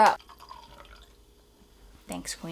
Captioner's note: wine glugging